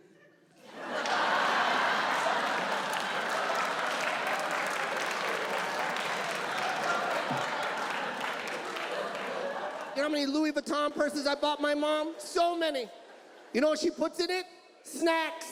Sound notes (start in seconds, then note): 1.0 audience laughs